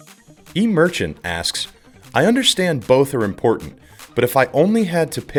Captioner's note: voiceover